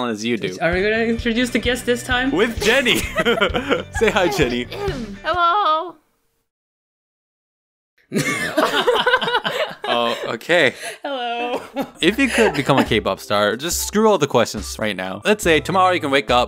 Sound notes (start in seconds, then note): 2.6 chuckling; 6.1 awkward Silence; 7.9 all Burst Out Laughing